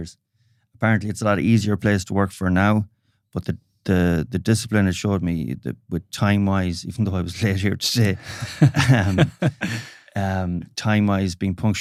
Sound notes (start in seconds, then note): 8.1 both laughing